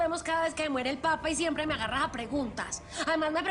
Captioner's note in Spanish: none